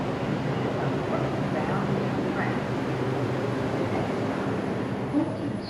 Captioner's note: train engine whirring